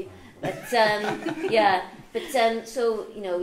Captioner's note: audience chuckles